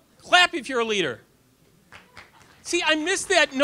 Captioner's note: audience applause